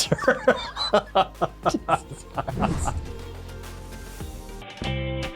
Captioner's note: both laughing